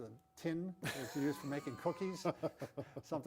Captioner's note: laughs